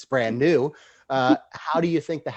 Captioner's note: chuckling